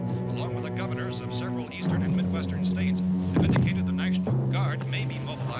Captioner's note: none